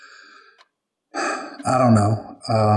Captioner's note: deep breath